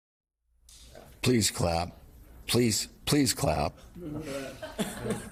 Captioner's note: laughter